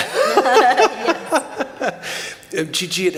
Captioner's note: laughter